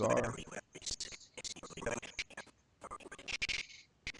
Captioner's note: audio skipping